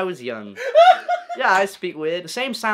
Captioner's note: laughs